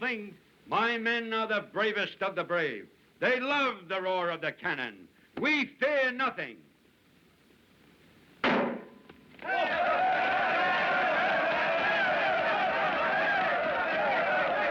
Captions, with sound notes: MY MEN ARE THE BRAVEST OF THE BRAVE. THEY LOVE THE ROAR OF THE CANNON. WE FEAR NOTHING! - [ Loud Pop ] - [ All Yelling ]